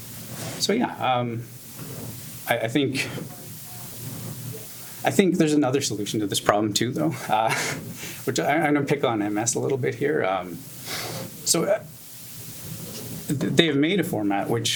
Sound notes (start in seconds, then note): 7.0 laughs